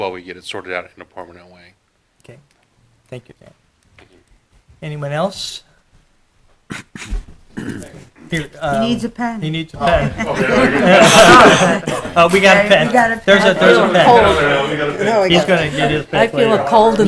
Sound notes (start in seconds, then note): 9.8 group laughter